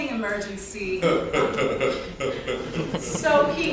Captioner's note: hehehehe